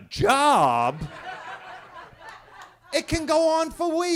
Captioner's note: attendees laughing